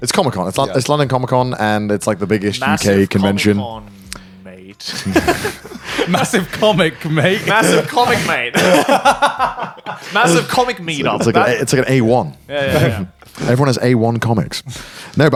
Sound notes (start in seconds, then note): 4.8 all laugh; 8.5 laughing